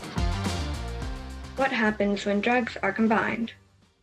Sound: female voice over

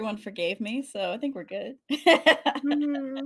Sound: laughs

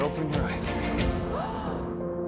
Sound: gasps; soft piano music

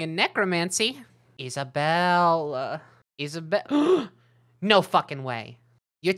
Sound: gasps

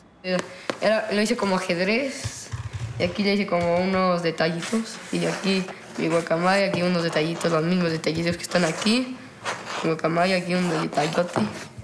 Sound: speaking spanish

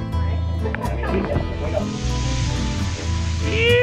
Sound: laughs

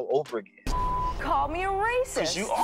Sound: beep

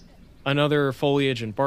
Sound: orange-crowned Warbler song

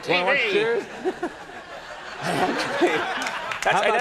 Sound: laughs

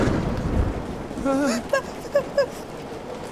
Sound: whimpering

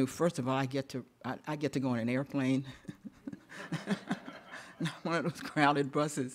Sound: chuckles

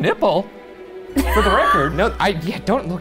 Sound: laughs

